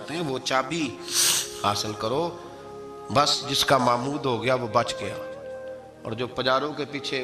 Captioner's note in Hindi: नाक से की जाने वाली आवाज़